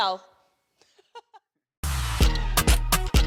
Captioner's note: both chuckle